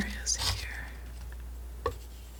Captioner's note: scratching